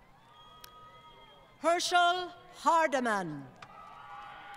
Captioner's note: crowd Cheering & Applause